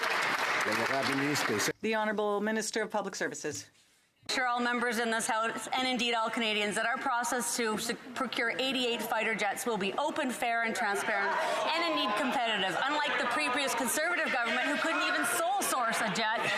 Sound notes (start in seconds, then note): 2.4 some Applause